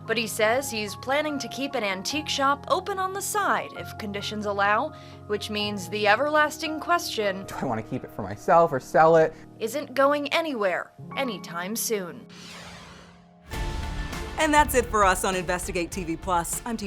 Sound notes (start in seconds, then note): 12.2 serious music; 12.3 logo whooshes